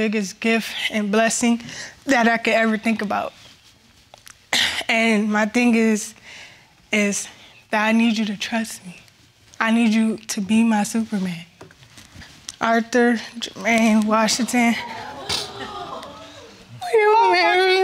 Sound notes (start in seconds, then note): 14.4 audience exclaims; 16.1 sobs